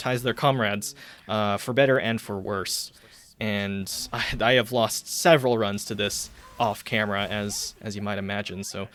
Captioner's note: scoffs